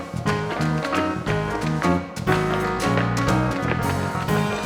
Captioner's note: dancers tapping